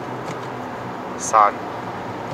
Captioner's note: downshifts